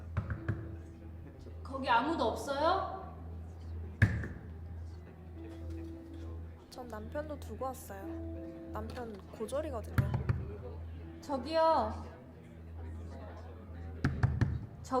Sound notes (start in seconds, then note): 0.1 knocking on the door; 4.0 knocking on the door; 9.9 knocking on the door; 14.0 knocking on the door